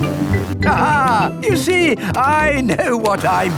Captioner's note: laughs